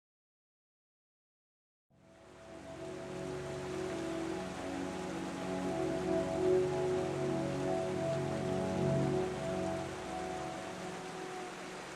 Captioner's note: rippling stream